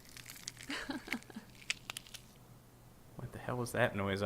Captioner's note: female laughs